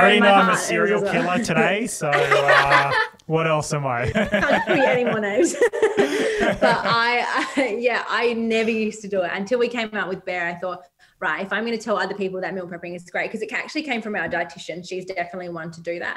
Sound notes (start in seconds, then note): 4.0 all laugh